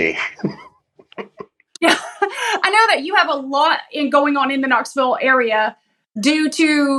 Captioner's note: laugh